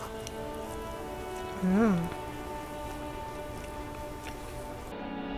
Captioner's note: eating something. nom nom